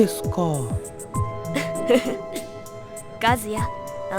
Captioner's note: chuckle